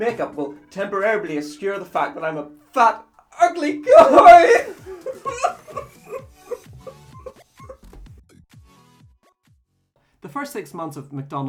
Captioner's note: crying